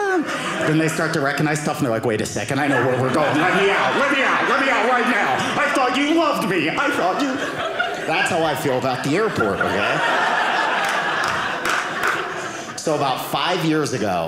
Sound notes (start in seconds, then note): 9.6 audience laughing